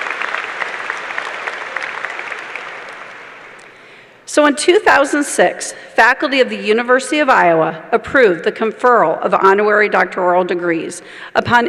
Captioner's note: cheers and applause